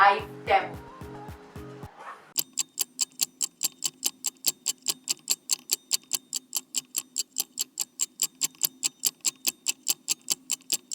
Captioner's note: Clock Ticking